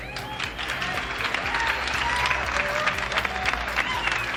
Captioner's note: audience applauding